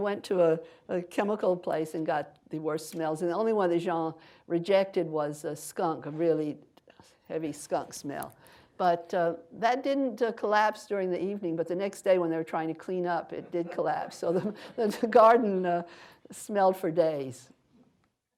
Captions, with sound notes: so he went to a chemical place and got the worst smells and the only one that Jean rejected was skunk, a really heavy skunk smell. But that didn't collapse during the evening, but the next day when they were trying to clean up, it did collapse (laughter) so the garden smelled for days.